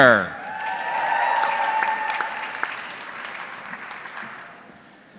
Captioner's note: audience clapping